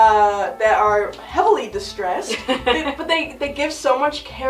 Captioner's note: chuckles